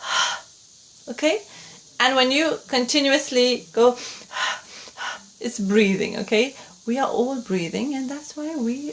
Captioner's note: breaths